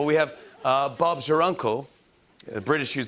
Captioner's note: English accent